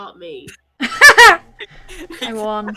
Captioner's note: extremely Loud Laugh